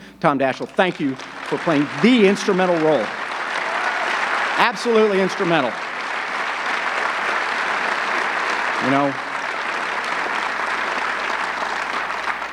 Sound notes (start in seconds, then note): 6.7 audience clapping